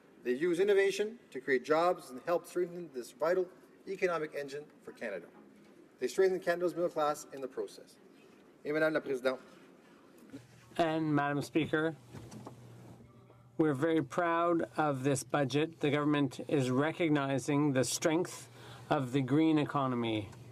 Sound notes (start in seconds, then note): 14.8 speaking in french